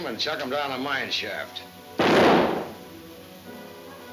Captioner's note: gun firing